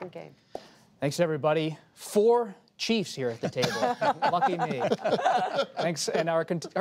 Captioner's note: laughter